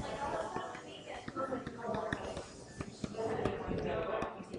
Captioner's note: stylus taps